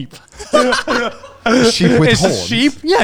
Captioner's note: laughing quickly